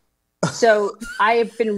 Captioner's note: laugh